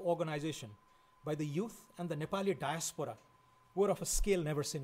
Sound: foreign language

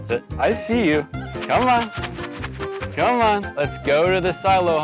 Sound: food rattling

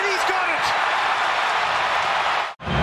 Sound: cheering and Applause

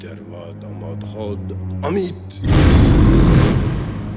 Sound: roaring

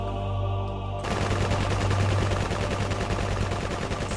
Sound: gunshots

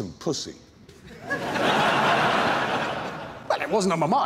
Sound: laughter

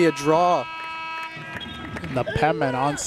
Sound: horn blowing

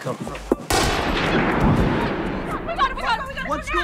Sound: gun banging

